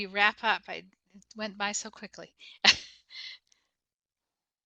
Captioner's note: chuckles